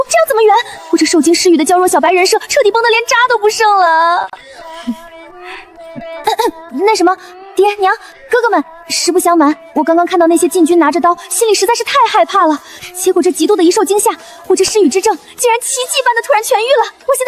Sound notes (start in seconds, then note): 6.4 cough cough